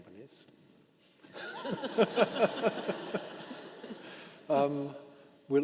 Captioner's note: participants laughing